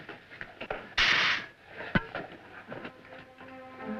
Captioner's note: air hisses; dramatic orchestral music